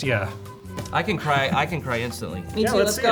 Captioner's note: laughing